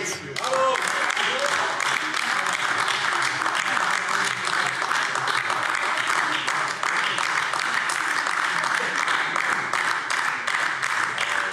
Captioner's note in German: Anhaltender Beifall AfD